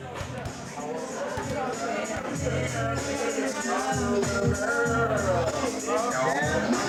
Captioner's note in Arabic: ثرثرة الناس